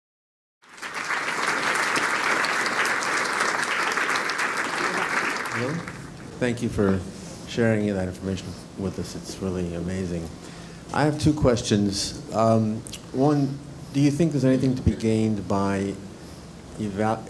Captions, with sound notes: >> [APPLAUSE] >> Thank you for sharing that information with us. It's really amazing. I have two questions. One, do you think there's anything to be gained by analyzing